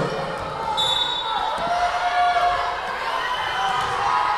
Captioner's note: whistle blowing